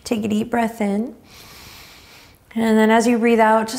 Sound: inhaling deeply

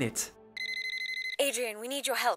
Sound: watch beeping

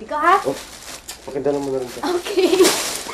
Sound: giggles

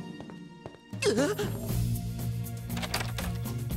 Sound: gasping

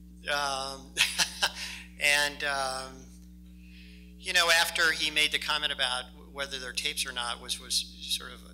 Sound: laughs

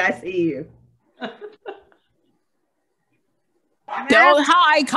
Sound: laughing

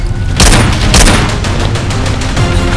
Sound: gun fires

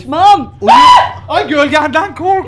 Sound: screams

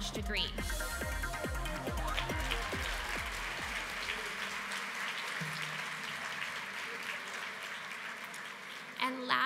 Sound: applause

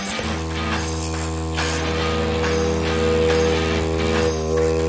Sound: compressor buzzing

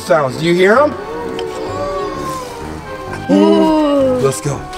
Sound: spooky howling

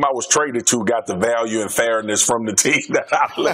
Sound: laughs

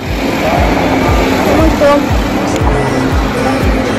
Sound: cars driving

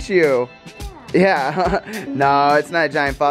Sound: laughs

